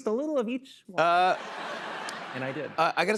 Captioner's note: laughter